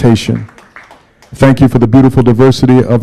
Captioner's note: applause